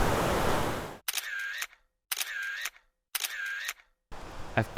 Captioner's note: shutter sound